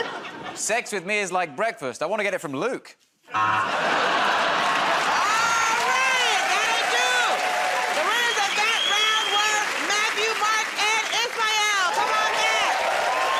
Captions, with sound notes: -Sex with me is like breakfast. I want to get it from Luke. [ Buzzer ] -All right! That'll do. The winners of that round were Matthew, Mark, and Ismael. Come on back.